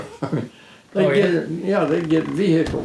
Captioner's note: chuckling